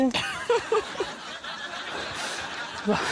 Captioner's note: laughs